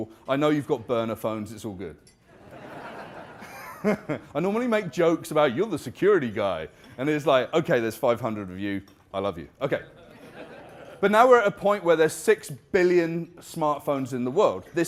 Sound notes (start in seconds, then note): 2.8 laughing; 9.6 laughing